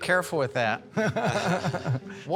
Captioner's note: laughter